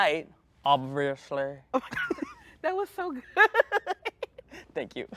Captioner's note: laughs